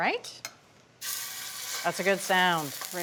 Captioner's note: chicken sizzles